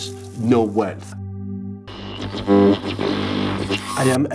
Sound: electronic whirring

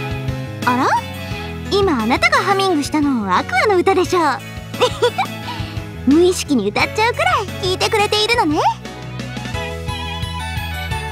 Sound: giggle

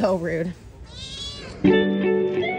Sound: meows yes

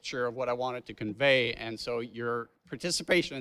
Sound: none

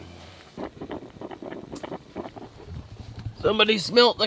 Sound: coffee bubbling

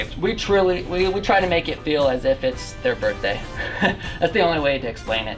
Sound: laughs

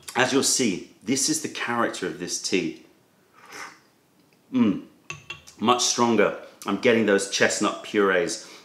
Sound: sips tea

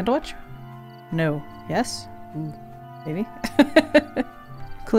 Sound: laughs

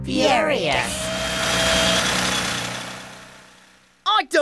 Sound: whirring

